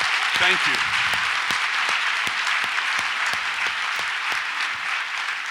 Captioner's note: audience applauds